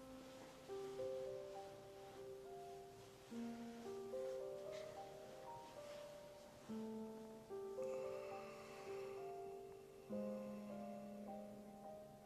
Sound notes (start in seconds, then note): 0.2 gentle music; 7.8 Holsten sighs